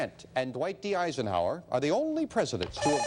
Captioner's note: beeping